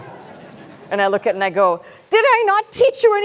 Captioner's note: laughter